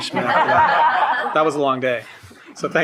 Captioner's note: shared laughing